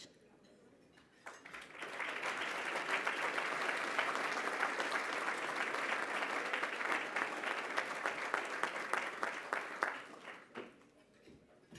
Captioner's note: applause